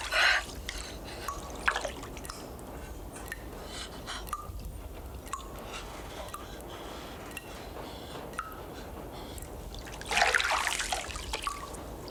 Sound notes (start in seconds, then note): 0.2 Cathy panting; 4.1 water dripping